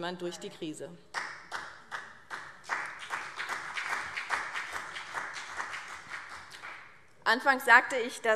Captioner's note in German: Vereinzelter Beifall BÜNDNIS/90 DIE GRÜNEN und CDU